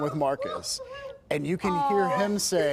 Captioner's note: crying